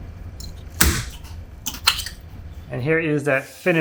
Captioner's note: wood cracking